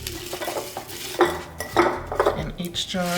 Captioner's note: jars clanking